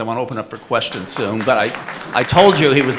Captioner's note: audience applauding